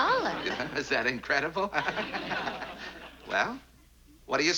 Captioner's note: laughs